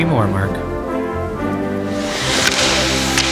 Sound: bees buzzing; hockey stick slap shot

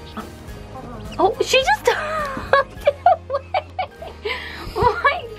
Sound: laughing

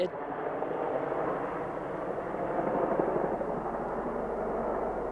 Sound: plane engine roaring

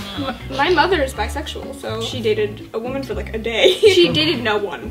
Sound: laughs

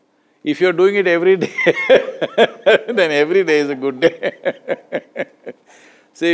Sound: laughs

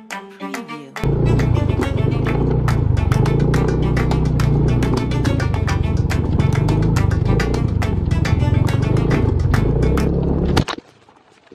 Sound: engine sound

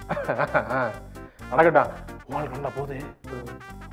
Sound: cough cough

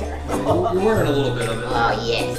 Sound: voiceover

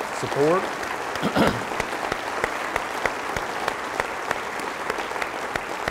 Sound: applause

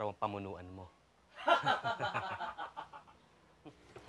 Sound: Jaime's men laughs

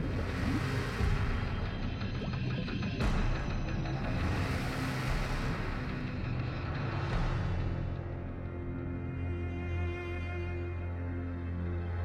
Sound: gurgles

